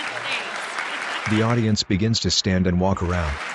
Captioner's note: applause